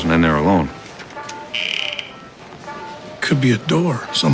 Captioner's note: door creaking on radio